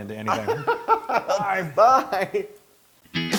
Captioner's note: laugh